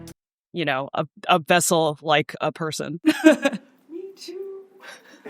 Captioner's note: laughs